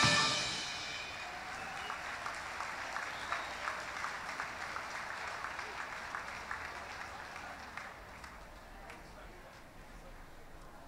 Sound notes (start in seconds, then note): 1.7 applause; 1.7 cheering